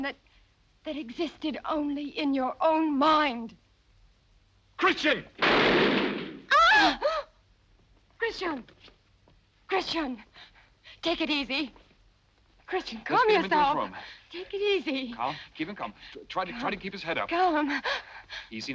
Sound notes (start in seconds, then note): 5.4 gun bangs; 6.4 Brigitte screams; 6.5 Helene gasps